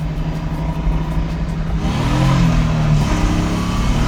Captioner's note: car engine revving